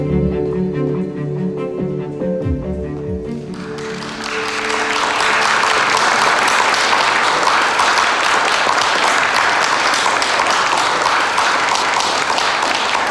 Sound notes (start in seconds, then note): 4.3 applause